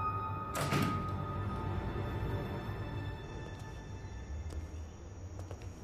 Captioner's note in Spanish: Portazo